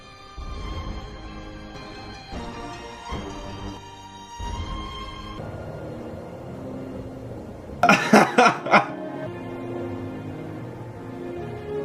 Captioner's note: laughs at carefully placed skeleton and spider